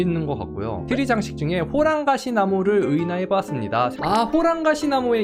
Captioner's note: voiceover